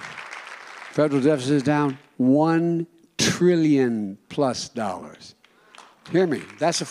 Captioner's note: applause